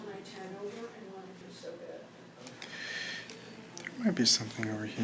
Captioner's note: people in office chatter